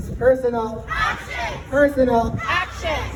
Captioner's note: crowd